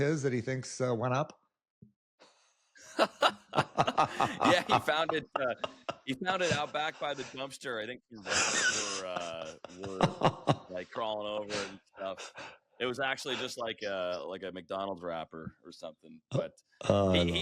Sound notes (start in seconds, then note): 2.8 laughter